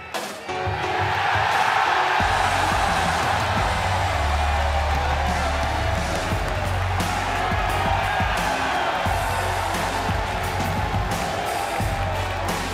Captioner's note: cheers and applause